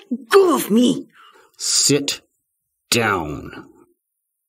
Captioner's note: quiet